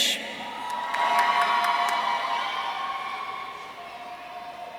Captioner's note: audience cheering